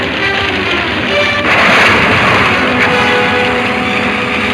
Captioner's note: fire roaring